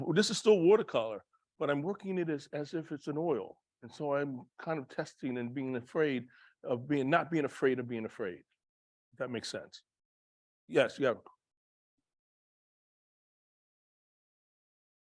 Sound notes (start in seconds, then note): 11.2 silence